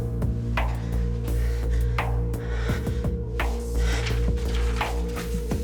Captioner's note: Jan breathing